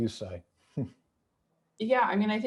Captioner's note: chuckling